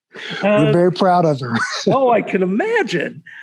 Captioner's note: laughs